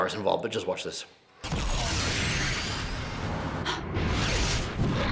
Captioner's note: laser exploding